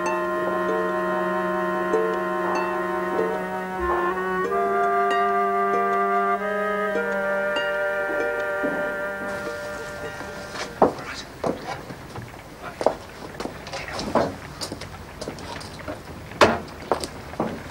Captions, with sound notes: - (Dog barks in distance) - (Whispers) All right? (Carriage passing) Take hold of this.